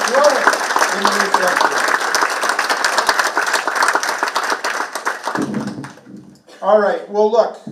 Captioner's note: participants clapping drowns out speaker